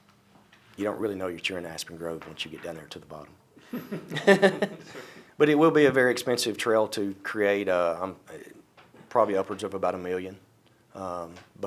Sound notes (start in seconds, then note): 3.7 laughs